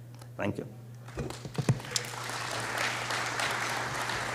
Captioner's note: applause